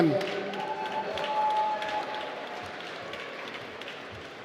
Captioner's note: applause